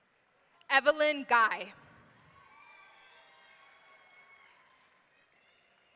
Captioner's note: audience cheering